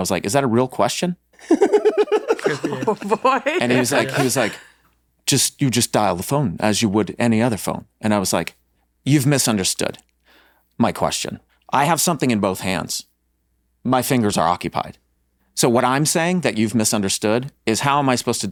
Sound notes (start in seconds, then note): 1.4 Rob laughs; 1.4 laughs